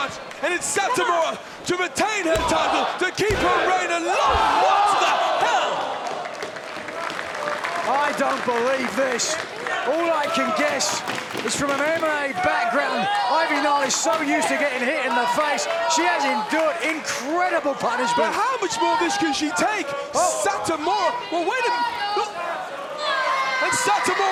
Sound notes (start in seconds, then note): 5.8 applause